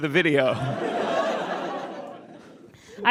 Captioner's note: audience laughs